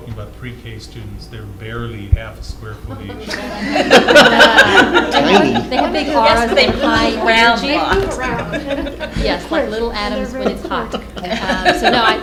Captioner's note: laughter